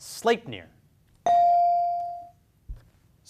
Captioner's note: beep